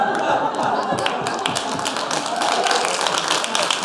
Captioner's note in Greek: χειροκροτουν αρκετοι